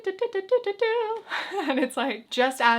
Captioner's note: chuckles